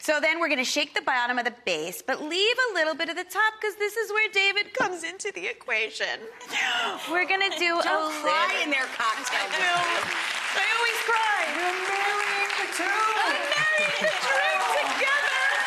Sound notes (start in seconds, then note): 7.5 audience applauds